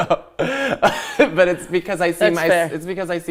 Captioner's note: laughing